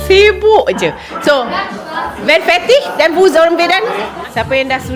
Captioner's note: speaking German